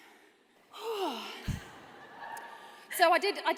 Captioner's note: exhales loudly; laughter